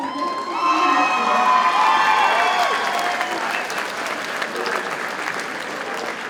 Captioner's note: audience cheers and applauds